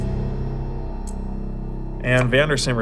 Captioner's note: clock ticking